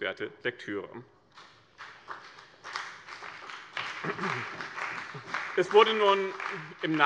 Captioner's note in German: Beifall bei dem BÜNDNIS 90/DIE GRÜNEN und der CDU